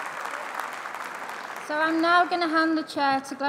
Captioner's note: applause